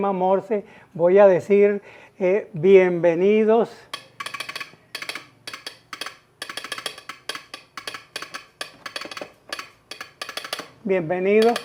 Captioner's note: morse Code